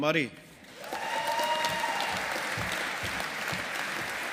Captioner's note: audience applauding